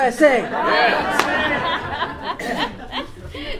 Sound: audience laughs and shouts

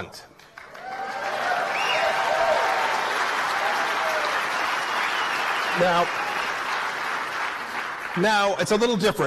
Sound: applause

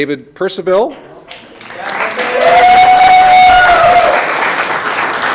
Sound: audience clapping

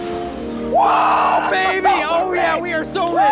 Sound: screaming

